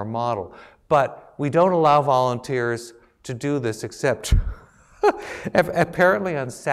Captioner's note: laugh